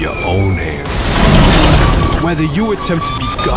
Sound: bomb crashes

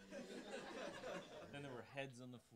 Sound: audience laughing

